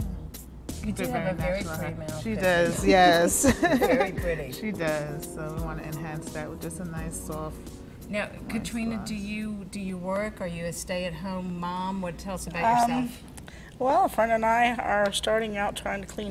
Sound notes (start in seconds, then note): 2.9 laughs